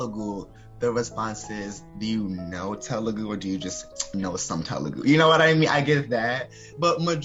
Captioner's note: tongue click